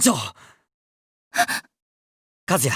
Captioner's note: gasp